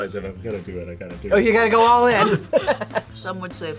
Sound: laughs

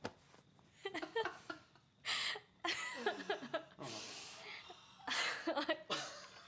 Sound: laughter

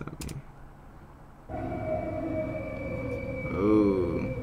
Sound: sound effect

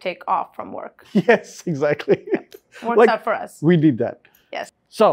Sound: laughs

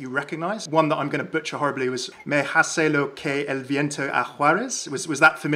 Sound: speaks Spanish

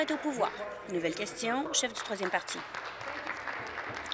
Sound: applause

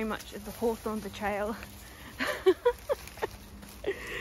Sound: laughs

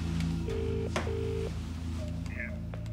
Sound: line trilling

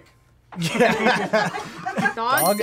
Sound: group laughs

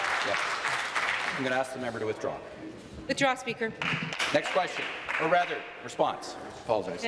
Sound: applause

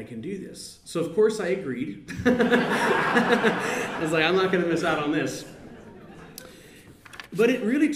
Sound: laughter

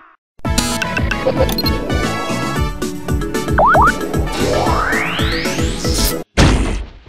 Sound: beeps and bloops

